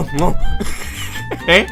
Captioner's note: long Laughing sound